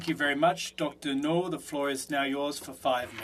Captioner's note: speaking French